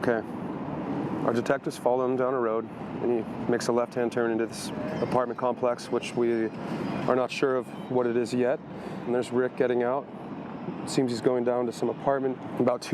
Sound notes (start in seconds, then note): none